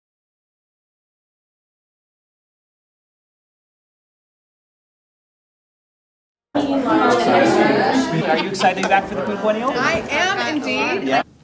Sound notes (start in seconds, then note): 6.5 people talking